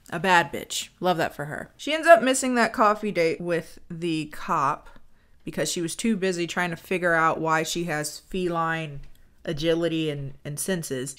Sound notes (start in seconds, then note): none